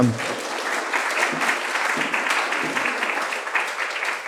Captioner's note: applause